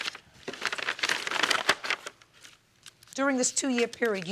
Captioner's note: paper crumpling